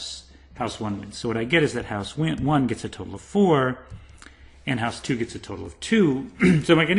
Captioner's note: cough